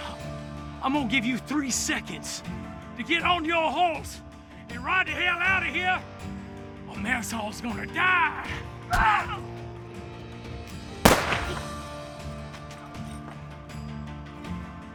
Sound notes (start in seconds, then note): 8.2 both grunt